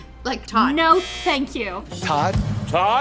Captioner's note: buzzer beeps; beep